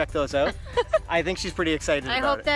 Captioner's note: laughs